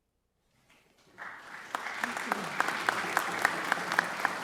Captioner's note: audience applauds